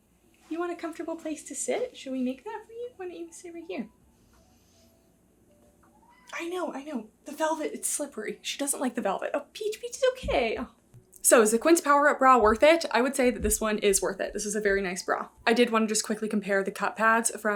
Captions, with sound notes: You want a comfortable place to sit? Should we make that for you? Why don't you sit right here. [Peach meows] I know, I know. The velvet, it's slippery. She doesn't like the velvet. Oh, Peach. Peach, it's okay. So is the Quince Power-Up Bra worth it? I would say that this one is worth it. This is a very nice bra. I did wanna just quickly compare the cup pads